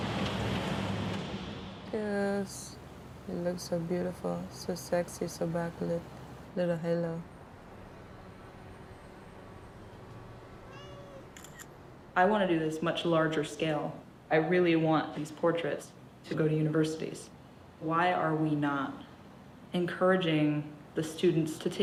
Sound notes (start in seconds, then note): 10.6 cat meows